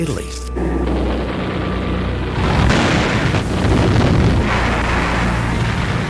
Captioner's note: dramatic music; guns firing